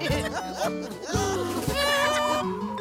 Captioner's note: honks